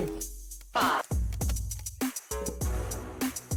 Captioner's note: computer over speaker